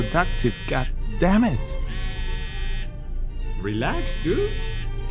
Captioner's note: phone vibrating